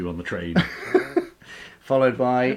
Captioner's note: laughing